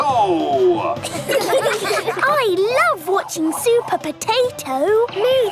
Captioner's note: children laughing